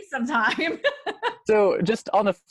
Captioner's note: laughs